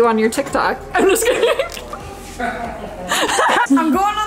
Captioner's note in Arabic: يضحك